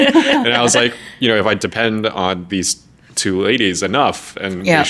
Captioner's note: laughing